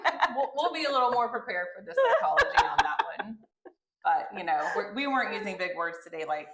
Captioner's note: laughter